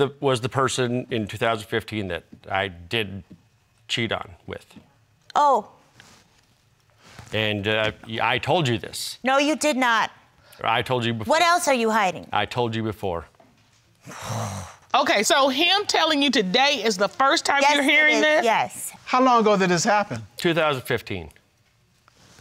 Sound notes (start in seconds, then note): 14.0 sighs frustratedly